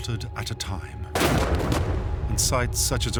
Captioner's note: gunshots